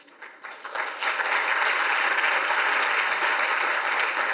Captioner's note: audience applauds